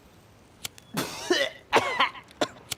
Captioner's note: coughs; choking